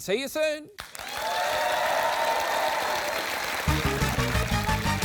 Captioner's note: cheering and applause